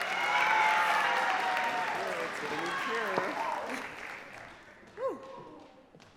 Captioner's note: audience claps